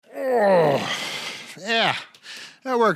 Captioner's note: grunts